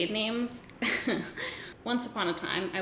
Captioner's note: giggles